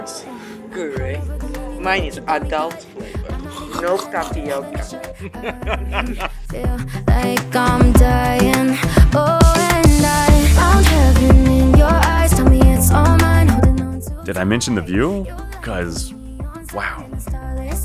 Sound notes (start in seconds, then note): 3.4 choking Laughter; 6.1 both laughing